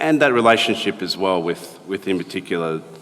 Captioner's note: none